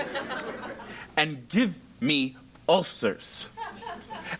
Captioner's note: laugh